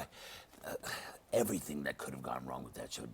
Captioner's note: sighs